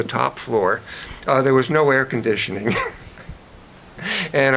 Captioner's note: chuckles